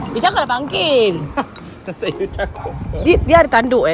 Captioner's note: laugh